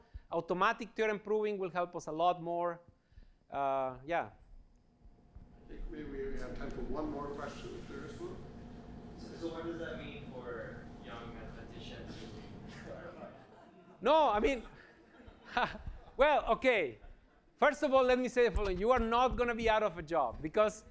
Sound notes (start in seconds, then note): 12.7 chuckles; 12.9 laughter; 14.6 chuckles